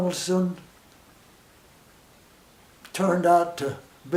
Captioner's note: silence